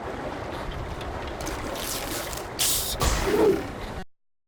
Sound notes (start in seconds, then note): 0.0 SFX: water noises; 3.0 SFX: bottle opening